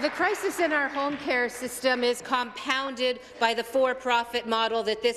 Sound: some Applause

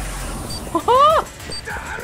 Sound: exclaims

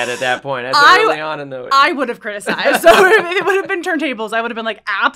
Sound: laugh

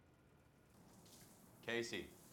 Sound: shower splashing

